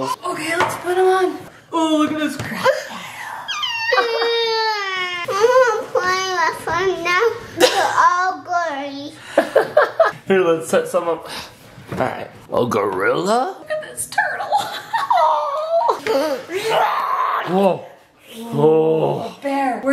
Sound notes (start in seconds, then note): 3.5 cries; 9.4 dad laughs; 14.6 laughs; 16.0 gasps; 16.7 roars